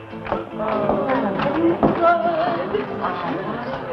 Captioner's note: gasps